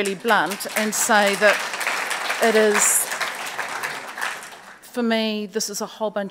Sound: audience applauds

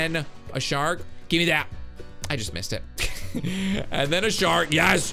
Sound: laughs

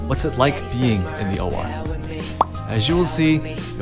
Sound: none

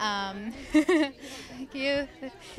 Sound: giggling

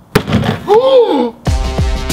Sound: hammer bang; ghasps; upbeat music

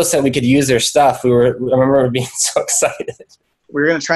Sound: laughs

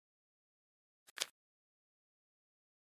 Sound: paper folds

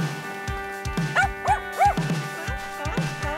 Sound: gentle music; Murph barking; seal barking

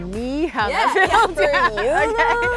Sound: laughs

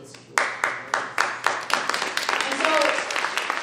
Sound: audience applauding

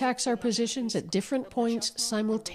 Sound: speaking alternate language

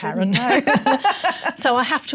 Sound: laughs

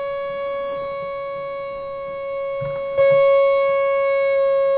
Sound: oscillator whines

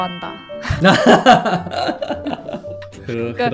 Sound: laughs

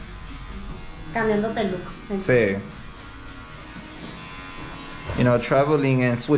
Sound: speaking in Spanish

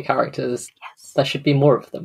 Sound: whispered

